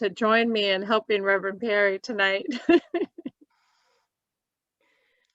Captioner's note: laughs